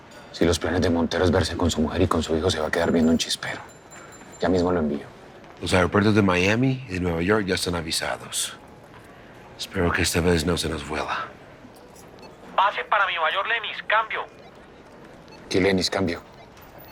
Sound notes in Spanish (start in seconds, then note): 12.3 Voz en la radio